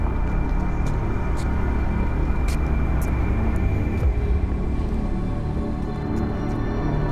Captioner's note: ominous music; footsteps scrape